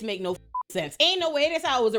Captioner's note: beep